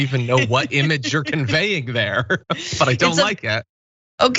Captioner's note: laugh